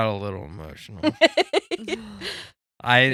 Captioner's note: laughing